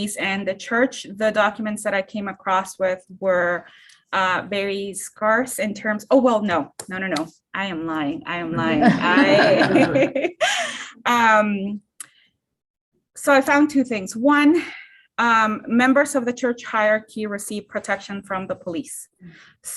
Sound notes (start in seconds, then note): 8.5 laughter